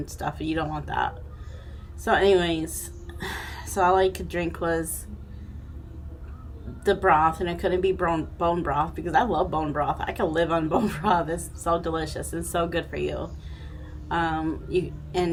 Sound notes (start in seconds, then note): 11.0 chuckling